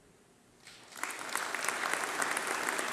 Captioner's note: applause